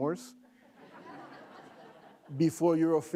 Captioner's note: laughing